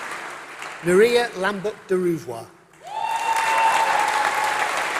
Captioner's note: applause